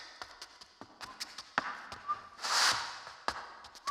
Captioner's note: shoes clacking